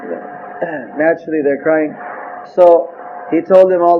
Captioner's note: sobbing